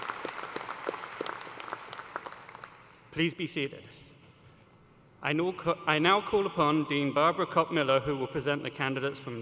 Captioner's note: cheers and applause